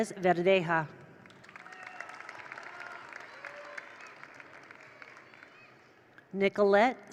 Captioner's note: attendees applaud; attendees cheer